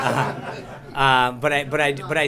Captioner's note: laughter